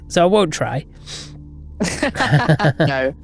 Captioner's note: both laughing